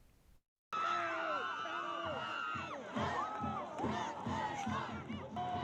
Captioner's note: cheering